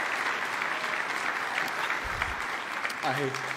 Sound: applause

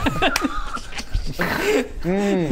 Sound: chaotic giggles

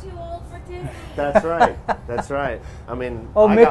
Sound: laughs

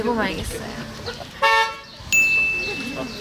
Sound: honk~!

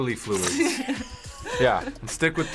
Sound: both laugh

